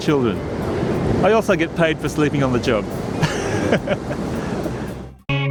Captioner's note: laughs